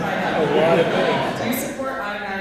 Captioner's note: laughter